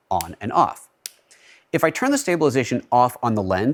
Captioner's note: switch clicks